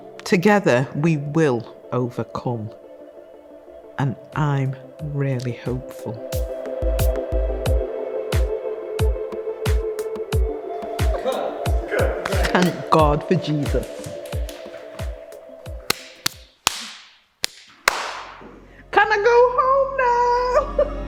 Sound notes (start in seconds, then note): 6.4 music builds; 15.8 clapping; 20.8 reflective music